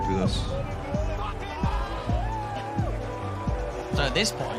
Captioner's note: all cheering